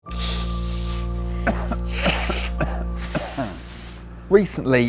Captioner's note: sniffing and coughing